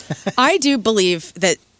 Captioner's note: laughing